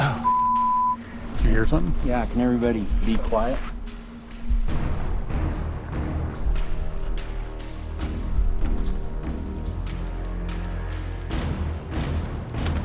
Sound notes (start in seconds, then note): 0.2 beeps; 7.8 soft intense music